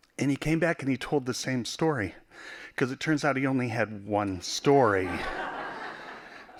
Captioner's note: laughing